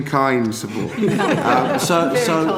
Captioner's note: laughter